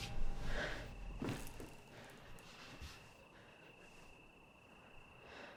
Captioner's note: Claire breathes heavily